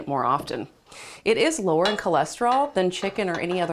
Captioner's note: pan clanks